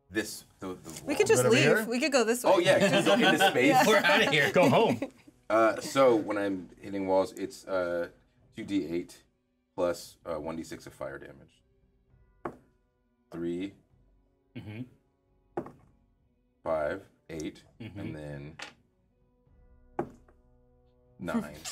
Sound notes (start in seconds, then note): 2.6 laughs; 2.6 speaker laughs; 5.0 speaker chuckles